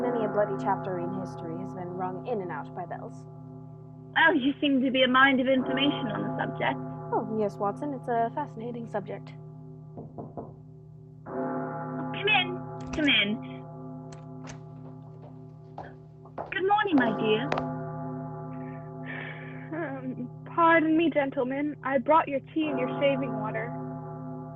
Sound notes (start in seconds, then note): 9.9 knock at door; 14.1 door opens, footsteps